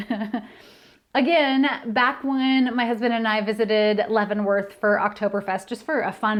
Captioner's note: laughter